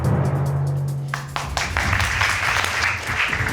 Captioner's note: audience applauding